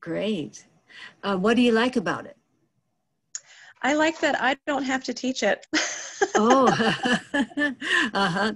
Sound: laughing

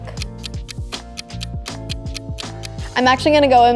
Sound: clock ticking

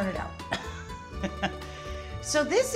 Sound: Rachael laughs

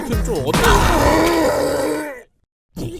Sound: thud

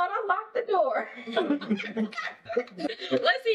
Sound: everyone laughing

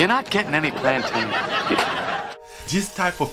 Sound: audience laughing

